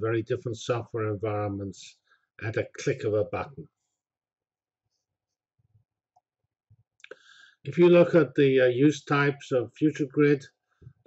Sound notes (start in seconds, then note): 3.9 pause